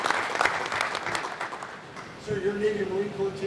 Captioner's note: applause